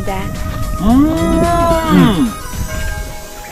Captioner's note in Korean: 감탄